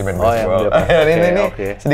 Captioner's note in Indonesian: ketawa